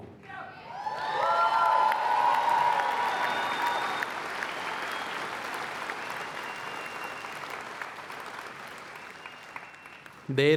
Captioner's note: applause